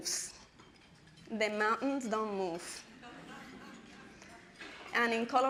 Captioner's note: audience laughing